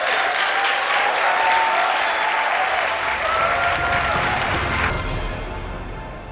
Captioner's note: applause